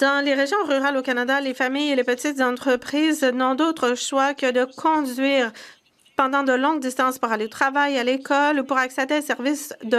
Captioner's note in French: voix de l'interprète